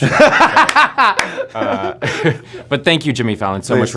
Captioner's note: laughs